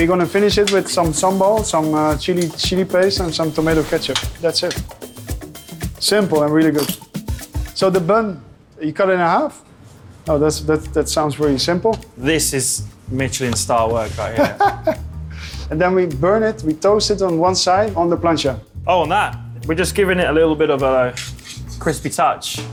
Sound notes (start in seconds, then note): 14.3 laughing